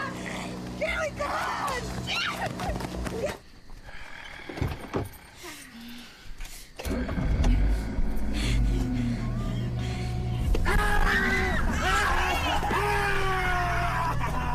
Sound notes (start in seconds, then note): 0.0 growling; 2.6 growling; 6.8 growling continues; 8.0 panting; 10.2 snarling, growling; 10.5 girls screaming